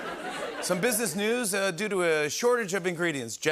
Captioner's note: normal voice